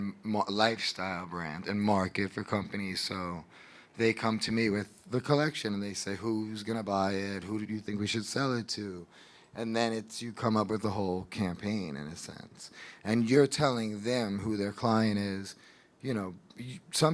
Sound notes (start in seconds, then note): none